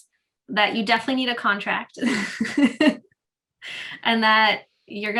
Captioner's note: laughing